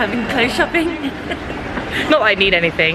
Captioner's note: both chuckling